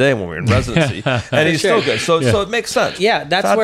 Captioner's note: laughing